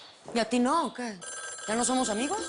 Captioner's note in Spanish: Suena el teléfono